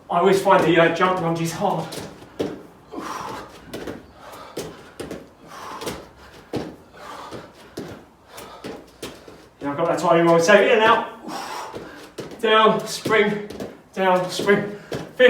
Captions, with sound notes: I always find the jump lunges hard. (exhales sharply) I got that timing wrong, so in and out, down, spring, down, spring.